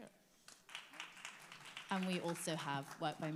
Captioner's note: audience applauds